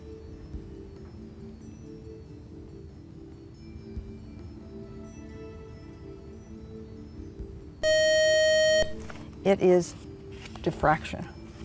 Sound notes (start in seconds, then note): 7.8 buzzer